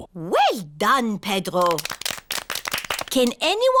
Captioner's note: all clap